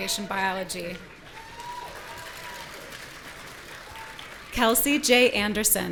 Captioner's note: audience cheering